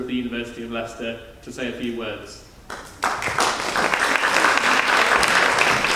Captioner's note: audience applauding